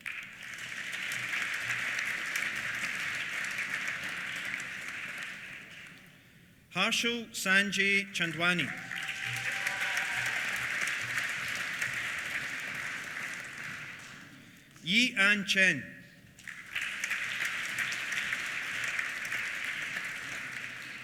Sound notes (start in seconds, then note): 0.0 applause; 7.7 applause; 8.5 cheers; 16.3 applause